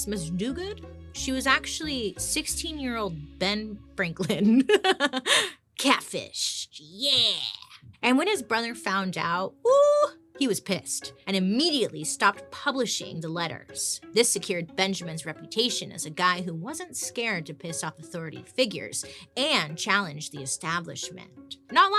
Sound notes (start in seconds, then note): 4.3 laughing; 9.6 exclaiming